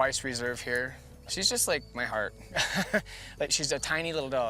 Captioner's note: laughs